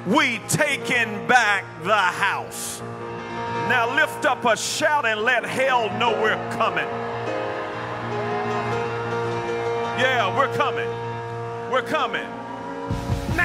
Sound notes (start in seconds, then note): 7.5 audience cheers; 7.5 piano plays